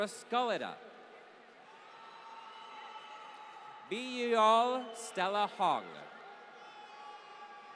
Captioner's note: applause